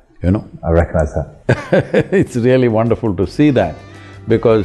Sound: laughs

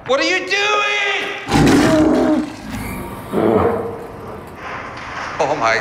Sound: bear growling

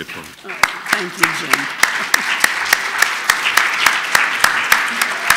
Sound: applause

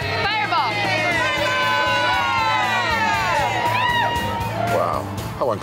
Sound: customers cheering

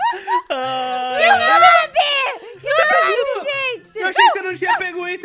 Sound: laughs; screams and talking

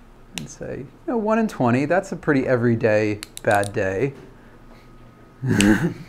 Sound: laughs

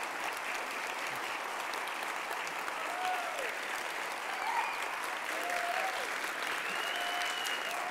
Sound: applauds

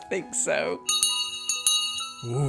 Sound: bell rings

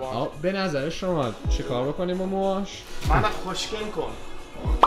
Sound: speaking Farsi

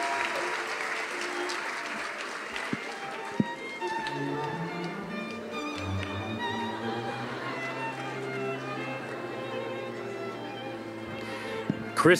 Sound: cheering and applause

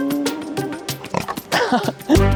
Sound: roaring sound

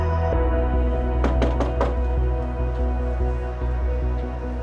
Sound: knocking

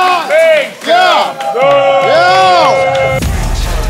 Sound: sound of cheering

